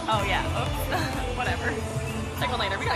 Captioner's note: laughs